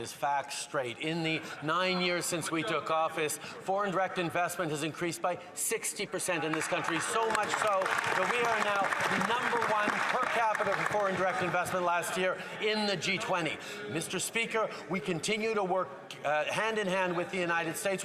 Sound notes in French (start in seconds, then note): 4.5 voix de l'interprète